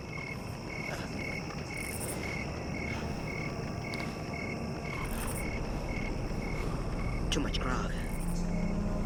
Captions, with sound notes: (crickets chirping) (fire crackling) Too much grog.